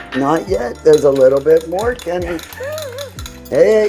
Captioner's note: laughs